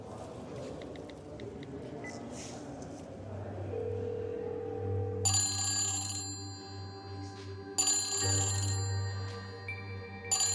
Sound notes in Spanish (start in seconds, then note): 6.0 Suena el celular